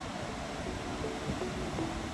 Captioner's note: gentle music; wind rustling; waves crashing